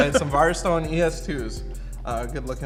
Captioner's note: laughs